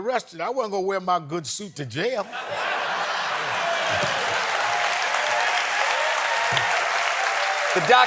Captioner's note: applause